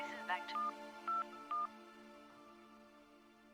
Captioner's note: keypad beeps